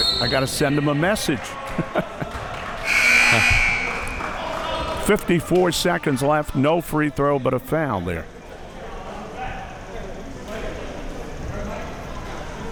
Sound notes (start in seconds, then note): 1.5 chuckles; 2.8 buzzer buzzing; 9.4 audience chattering